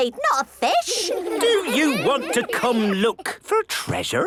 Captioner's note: children giggling